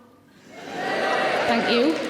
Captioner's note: audience cheers